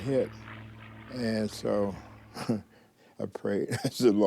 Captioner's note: chuckles